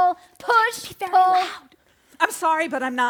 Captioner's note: whispering